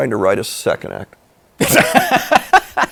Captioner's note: laughs